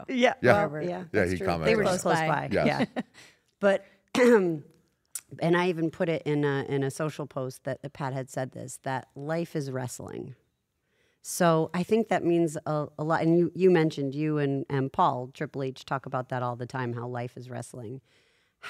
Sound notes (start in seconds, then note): 4.1 cough